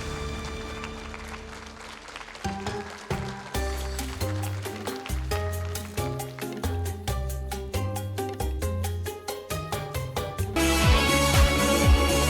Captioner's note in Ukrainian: оплески